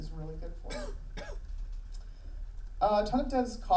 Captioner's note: coughs